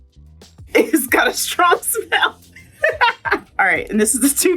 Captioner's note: laughs